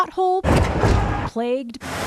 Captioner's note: tires clinking